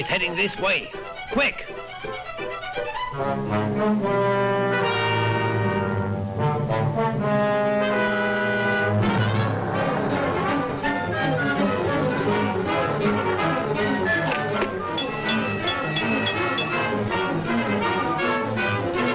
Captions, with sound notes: She's heading this way quick. (light dramatic music) (bell dinging)